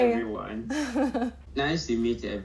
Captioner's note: laughing